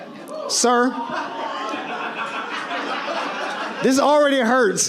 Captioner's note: audience laughs